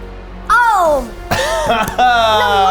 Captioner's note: laughs